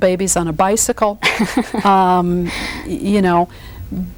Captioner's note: laughs